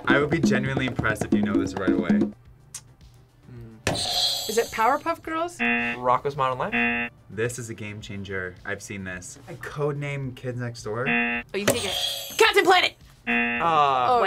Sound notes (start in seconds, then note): 5.6 buzzer rings; 11.0 buzzer rings; 13.2 buzzer rings